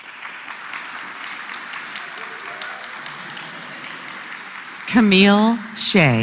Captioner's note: applause